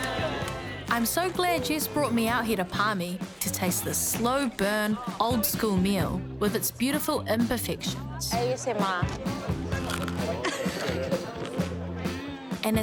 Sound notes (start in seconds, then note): 0.0 laughter; 0.9 crunch!; 9.2 laughs